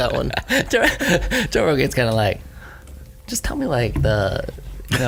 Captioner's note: laughs